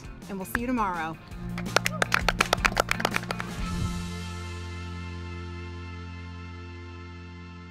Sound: bright music; all clapping

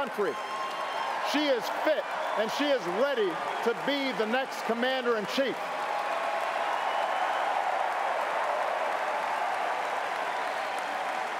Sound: cheers & applause

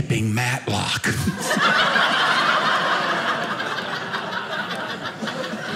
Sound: audience laughing

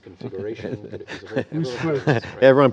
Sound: laughter

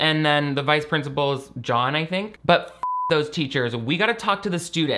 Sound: beep

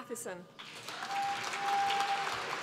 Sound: applause

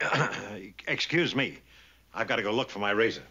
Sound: clears throat

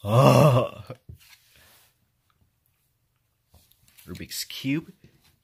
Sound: frustrated grunt

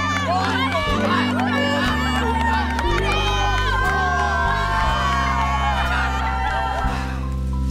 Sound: students cheering

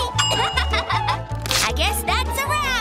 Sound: laughing

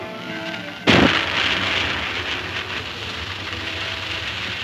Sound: fuse hissing

